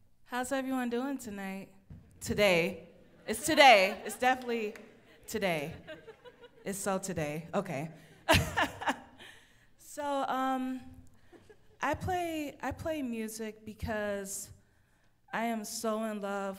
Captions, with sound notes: - How's everyone doing tonight, today, it's today, it's definitely today. (audience laughs) It's so today, okay. (laughs) So I play, I play music because I am so in love